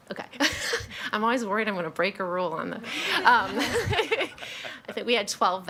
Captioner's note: laughs